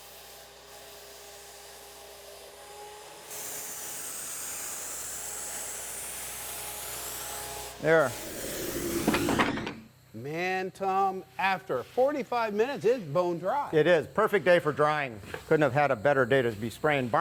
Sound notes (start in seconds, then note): 8.1 whooshes